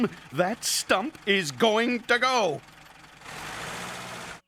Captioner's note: engine sputtering, birds squawking